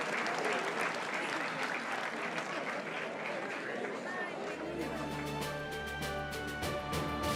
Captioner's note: applause